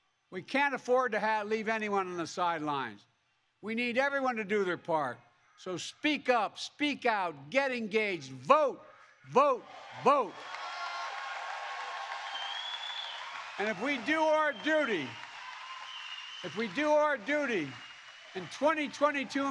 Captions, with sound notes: We can't afford to have -- leave anyone on the sidelines. We need everyone to do their part. So speak up. Speak out. Get engaged. Vote, vote, vote. (Applause) And if we all do our duty -- if we do our duty in 2022